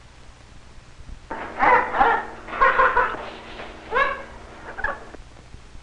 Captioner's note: parrot chuckles and chirps